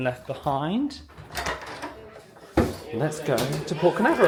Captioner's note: door opens